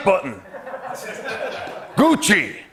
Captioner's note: laughter